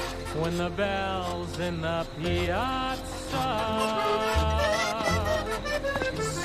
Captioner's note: springs squeeking